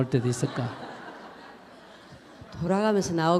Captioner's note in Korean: 청중 웃음